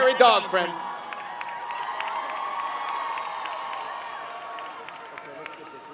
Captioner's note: cheering and Clapping